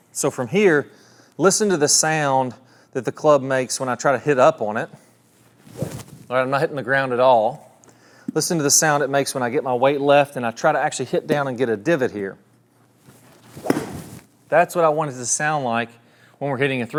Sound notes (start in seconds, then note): 5.7 club whooshes; 13.5 club whooshes and hits ground